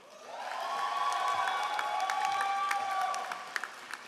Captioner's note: all applauding